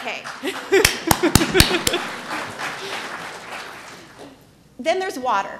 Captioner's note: applause